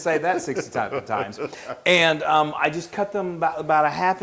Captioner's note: laugh